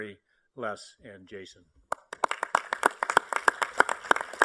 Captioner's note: applause